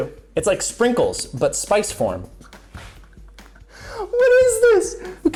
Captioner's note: laughs